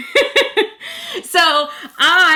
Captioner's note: laughs